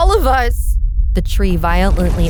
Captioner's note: crack rumble shake